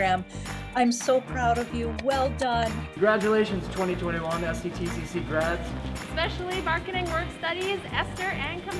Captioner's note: clapping